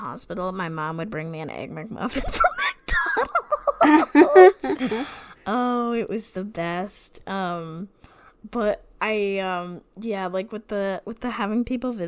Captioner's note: laughing